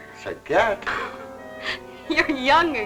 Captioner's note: laughing